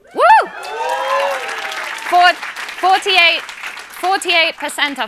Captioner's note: cheering and applause